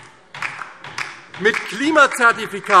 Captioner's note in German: Beifall DIE LINKE - Vereinzelter Widerspruch BÜNDNIS 90/DIE GRÜNEN